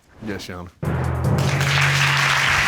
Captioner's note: audience applauding